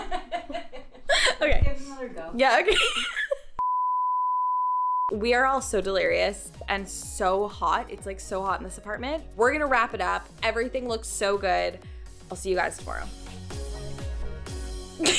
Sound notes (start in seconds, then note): 0.1 laughing; 2.7 laughs; 3.7 signal droning; 14.0 upbeat music